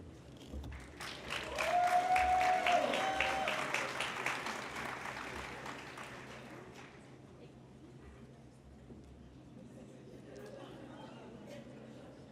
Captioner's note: applause